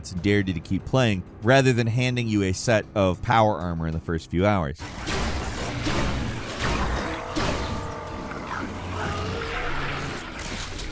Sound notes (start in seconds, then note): 4.8 gun firing; 4.9 creature growling